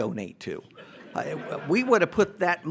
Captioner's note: audience laughs